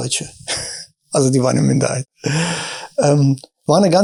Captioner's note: chuckles